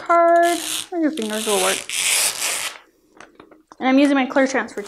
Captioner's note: peeling